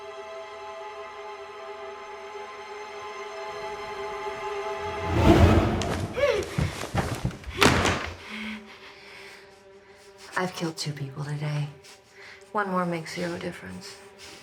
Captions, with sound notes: [muffled gasping] [breathing heavily] I've killed two people today. One more makes zero difference.